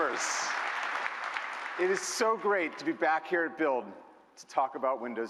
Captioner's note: applause